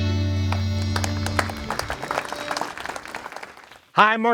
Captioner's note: fans clapping